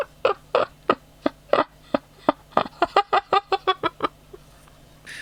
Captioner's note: laughing